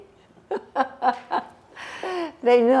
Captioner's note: laughing